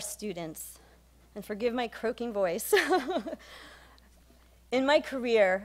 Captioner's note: laughs